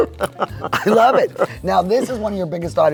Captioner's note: laughs